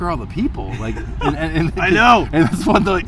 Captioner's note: laughing